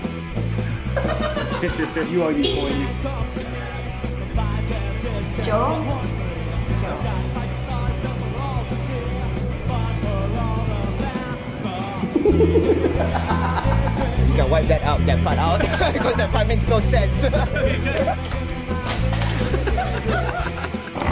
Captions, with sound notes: [laughter] [car honks in the background] Joe? Joe? [laughter] You can wipe that out. That part out because that part, makes no sense. [laughter] [object falls off table] [laughter]